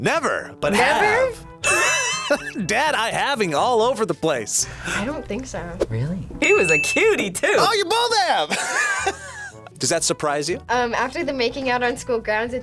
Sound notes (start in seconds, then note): 1.6 laughs; 8.4 laughs